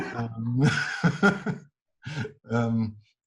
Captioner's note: laughing